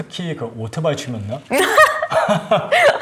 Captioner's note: laugh